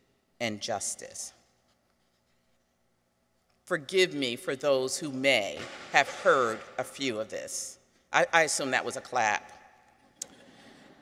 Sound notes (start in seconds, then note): 5.6 distant clattering; 9.9 people chuckle